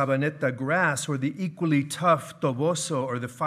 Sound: speaking in foreign language

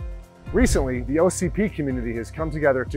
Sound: screen whooshing

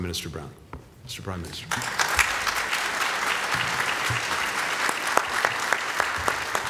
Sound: applause

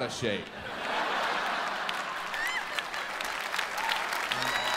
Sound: audience laughs and claps

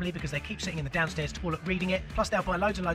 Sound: none

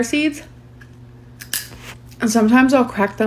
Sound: seed crunching

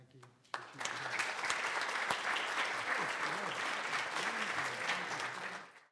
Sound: congregation applauding

